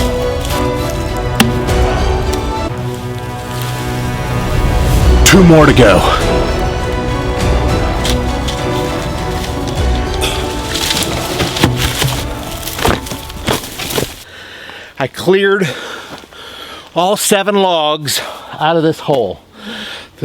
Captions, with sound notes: (ax pounds) Two more to go. (serious music) (grunts) (log falls) I cleared all seven logs out of this hole the same way,